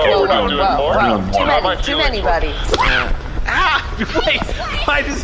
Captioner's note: Lava Crow slaps